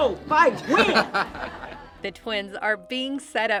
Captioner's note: laughter